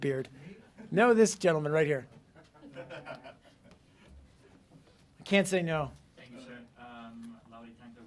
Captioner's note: laughter